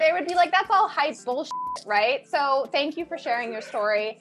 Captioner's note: beep